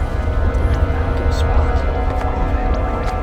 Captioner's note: Celtic whispers